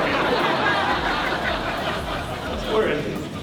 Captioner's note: crowd laughs